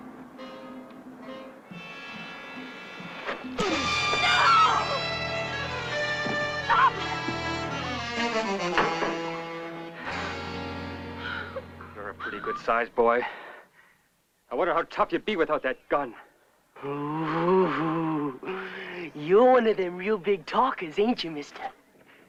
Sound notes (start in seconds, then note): 0.1 suspenseful music; 3.6 blow - doris scream; 7.8 worrying music